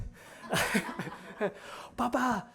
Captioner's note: laughter